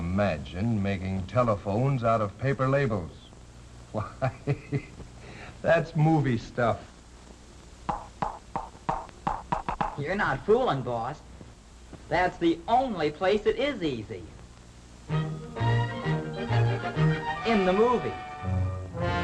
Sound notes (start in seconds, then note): 3.9 laughter; 8.3 loud clanking; 15.1 upbeat music